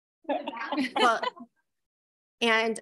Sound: board members laughing

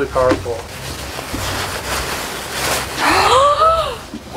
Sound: paper rustling

